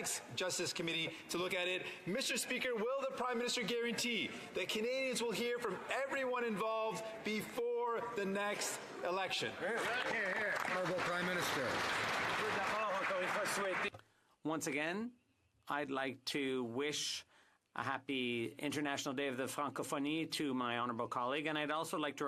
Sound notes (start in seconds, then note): 12.6 some Applause; 17.7 speaking French